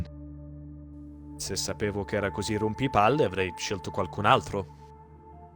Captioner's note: renzo speaks italian